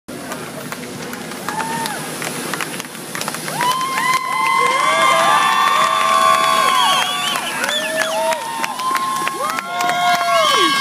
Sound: cheering and clapping

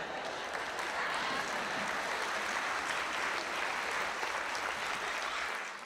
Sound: audience laughs and applauds

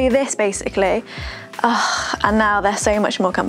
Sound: sighs

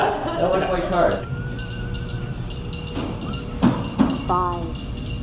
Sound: eerie whistling

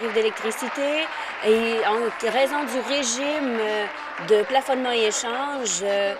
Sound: applause

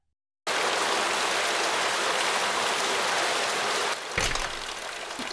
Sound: slosh

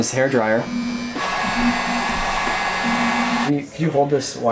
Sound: vrooming intensifies

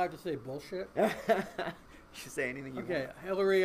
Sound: laughing

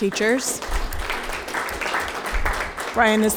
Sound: group clapping

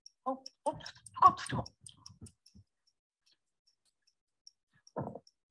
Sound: speaking gibberish

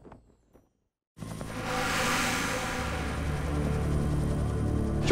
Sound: flag fluttering; helicopter blades whirring; dramatic music

